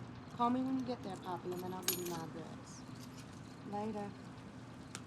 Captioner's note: keys rattling